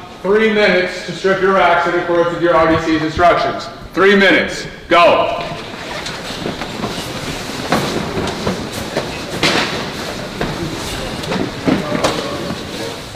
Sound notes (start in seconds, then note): 5.4 sheets rustling